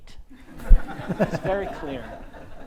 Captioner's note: audience laughs